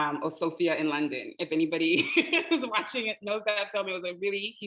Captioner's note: laughing